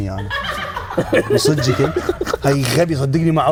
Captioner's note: laughs